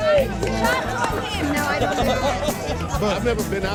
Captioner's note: crowd Talking